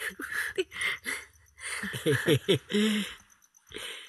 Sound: giggles

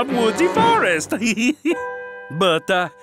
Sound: chuckles

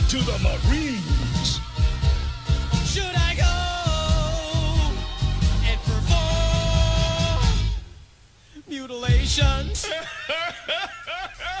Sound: chuckling

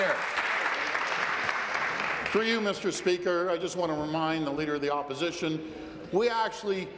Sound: applause

